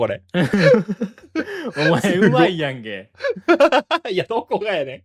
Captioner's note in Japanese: 笑い